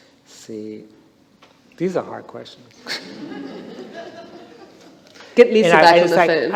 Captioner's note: laughter